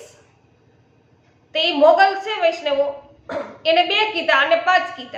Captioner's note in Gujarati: ગળું સાફ કરે છે